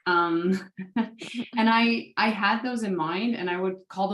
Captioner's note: laugh